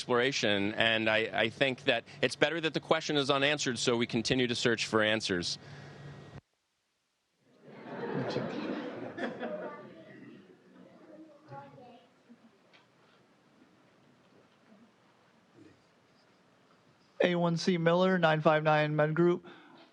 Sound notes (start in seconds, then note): 6.0 laughter